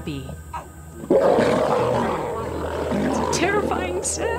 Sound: roars

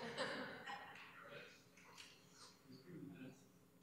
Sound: laughter

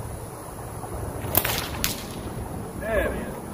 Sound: whip cracks

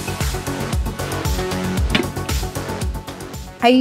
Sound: pot thumping

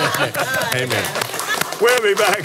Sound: applauds

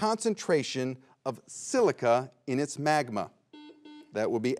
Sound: buzzer beeps twice

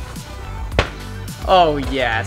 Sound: ball hitting board

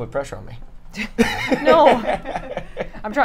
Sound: all laugh

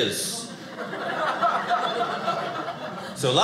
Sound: audience laughing

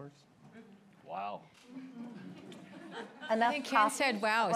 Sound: laughter

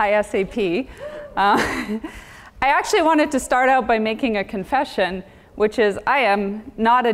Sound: laugh

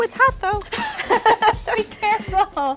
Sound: laughing

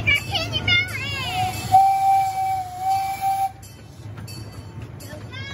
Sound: train whistle

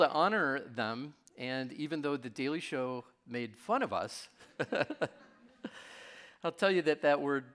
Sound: laughs

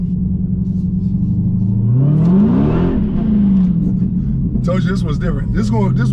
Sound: car engine revving

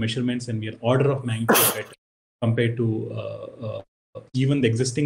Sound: sneezes

